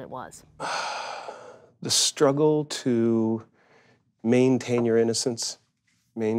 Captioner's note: sighs